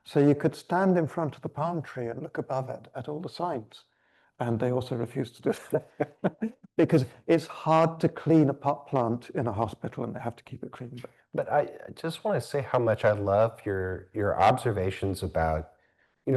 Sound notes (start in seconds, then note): 5.5 chuckling